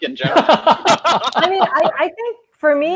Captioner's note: laughing